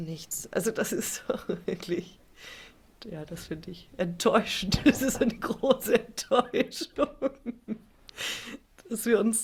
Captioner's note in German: gelächter